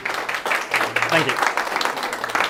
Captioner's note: applause